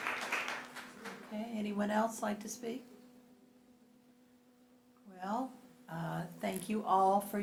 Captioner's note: applause